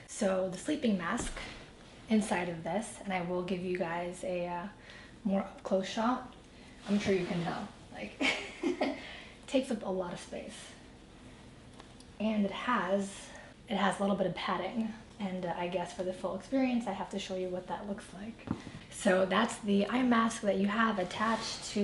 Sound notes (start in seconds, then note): 8.0 laughs